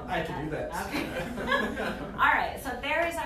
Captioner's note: laughter